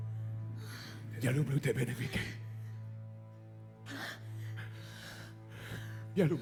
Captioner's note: Ukrainian